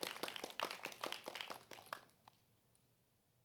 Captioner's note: applause